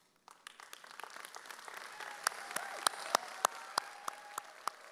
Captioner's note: audience cheers